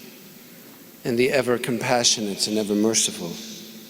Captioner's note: speaking foreign language